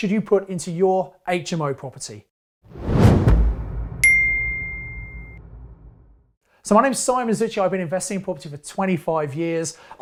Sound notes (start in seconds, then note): 2.7 air whooshing; 4.0 bell tinkling